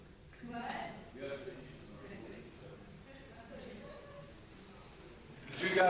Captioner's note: speaking faintly; speaking faintly